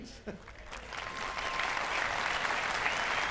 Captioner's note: applause